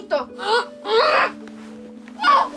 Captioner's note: speaking angrily in Spanish; grunting